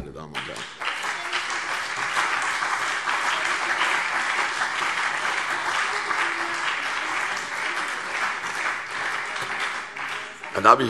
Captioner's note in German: Beifall CDU und BÜNDNIS 90/DIE GRÜNEN